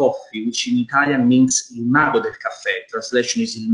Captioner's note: foreign language